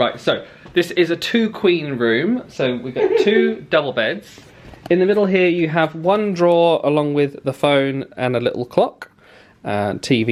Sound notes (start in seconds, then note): 3.0 snickers